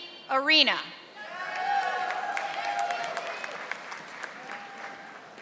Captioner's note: audience applauding